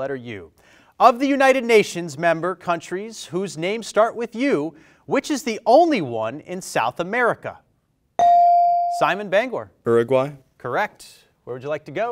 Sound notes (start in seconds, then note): 8.2 bell rings